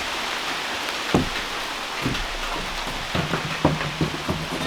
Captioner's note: rain pouring